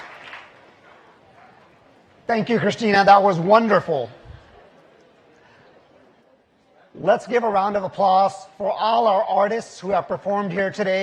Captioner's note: applause